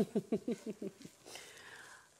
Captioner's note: laughing